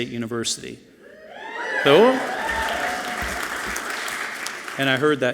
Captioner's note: audience clapping and cheering loudly